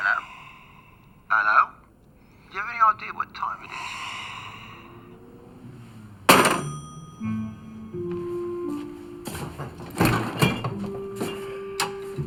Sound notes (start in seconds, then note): 6.2 phone clacking